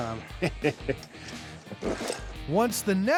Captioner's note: chuckling